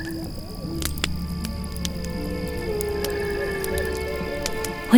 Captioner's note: fire crackles